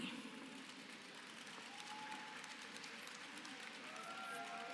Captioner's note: applause